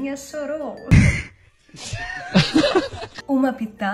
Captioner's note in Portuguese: Risos